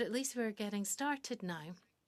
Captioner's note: speaking French